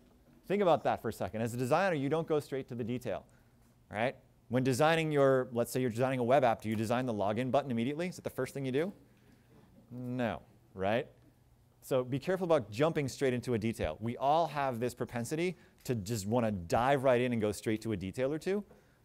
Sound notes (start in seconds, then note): none